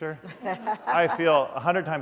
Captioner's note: laughter